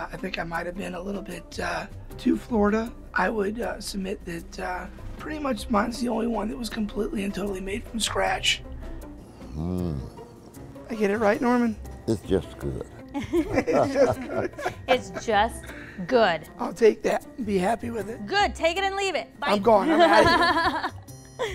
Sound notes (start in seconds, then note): 16.1 laughter